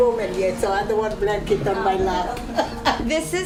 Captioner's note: laughs